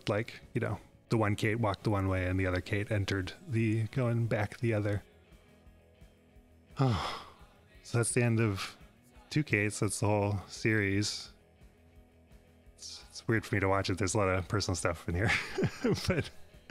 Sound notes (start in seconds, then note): 6.7 sighs; 15.3 laughs